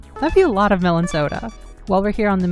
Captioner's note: bloop